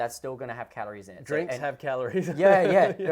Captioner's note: laughs